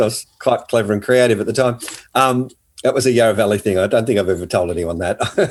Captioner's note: both laughing